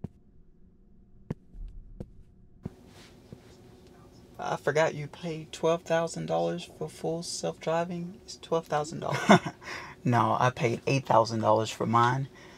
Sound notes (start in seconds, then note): 2.6 footsteps; 8.9 laughs